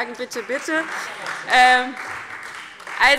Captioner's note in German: Beifall Freie Demokraten